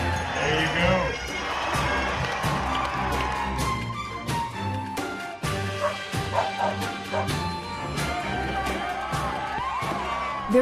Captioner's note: applause